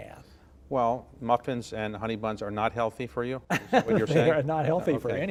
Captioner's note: laughs